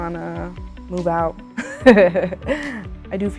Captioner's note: laughs